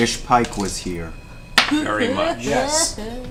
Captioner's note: sobs